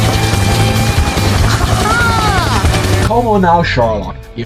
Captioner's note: helicopter sound